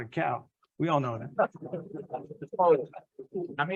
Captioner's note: laughs